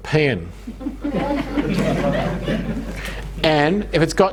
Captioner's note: audience laughing